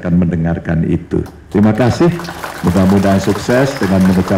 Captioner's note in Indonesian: tepuk tangan